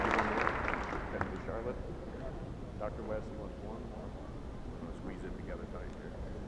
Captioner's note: applause